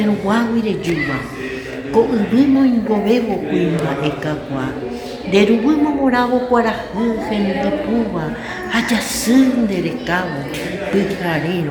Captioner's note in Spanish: En idioma Guaraní